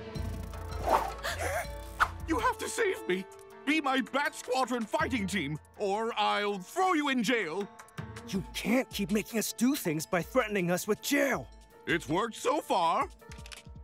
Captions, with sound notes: [gasping] You have to save me! Be my Bat Squadron fighting team or I'll throw you in jail. You can't keep making us do things by threatening us with jail. It's worked so far.